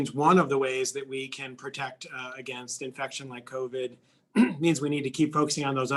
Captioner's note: cough